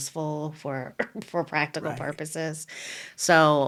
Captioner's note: laughing